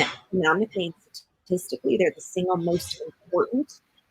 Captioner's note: connectivity error drowns out other sounds